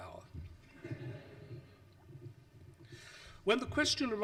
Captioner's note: audience laughs